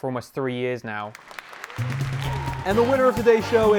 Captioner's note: audience applause